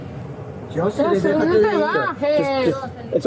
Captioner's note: speaking in foreign language